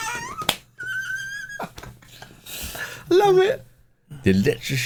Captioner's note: laughing